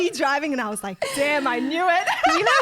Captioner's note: laughs